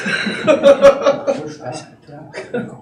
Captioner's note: laughter